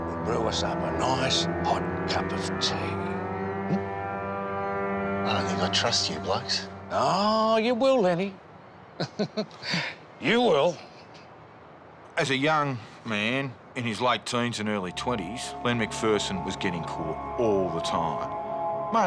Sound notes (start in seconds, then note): 9.0 cop chuckles